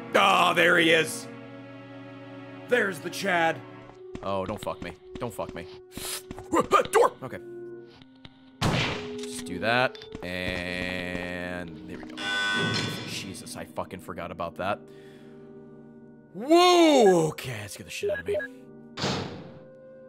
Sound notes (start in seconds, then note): 5.9 panic noises; 12.2 loud buzz